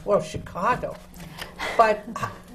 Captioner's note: laughter from the panel